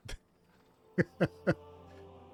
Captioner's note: laughs